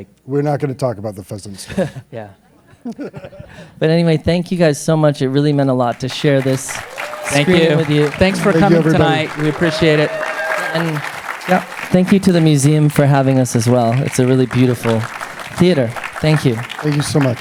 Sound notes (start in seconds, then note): 7.7 applause